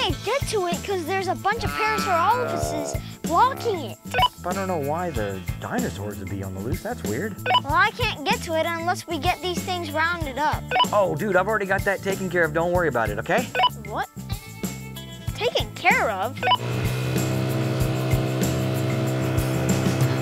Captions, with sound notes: - But I can't to it 'cause there's a bunch of paraphrophiluses blocking it. (walkie-talkie beeps) - But I dunno why the dinosaurs would be on the loose, that's weird. (walkie-talkie beeps) - Well I can't get to it unless we get these things rounded up. (walkie-talkie beeps) - Oh, dude, I've already got that taken care of. Don't worry about it, okay? (walkie-talkie beeps) - What? Taken care of? (walkie-talkie beeps) (ATV engine roaring)